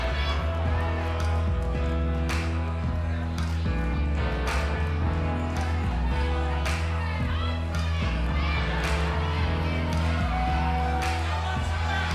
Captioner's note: crowd cheering